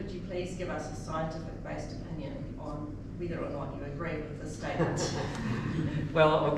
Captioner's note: chuckles